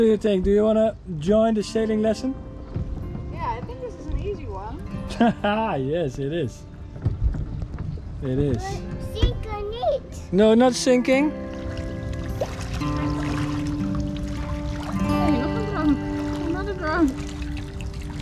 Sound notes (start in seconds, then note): 5.1 laughs